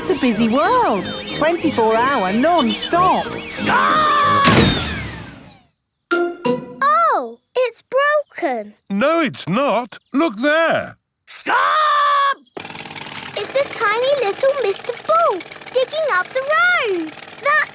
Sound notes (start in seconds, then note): 0.0 bleats; 4.4 thuds